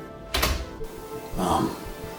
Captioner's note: door thudding